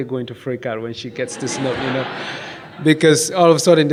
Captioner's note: audience laughs